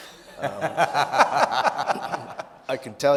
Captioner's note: audience laughing